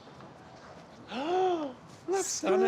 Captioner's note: gasps